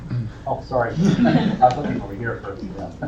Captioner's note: laughter